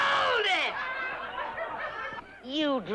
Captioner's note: crowd quiets down